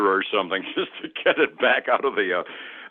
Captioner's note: laughing